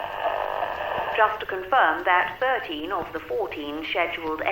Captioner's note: radio Announcer